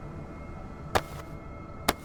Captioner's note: clop